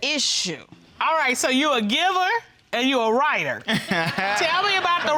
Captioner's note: laughs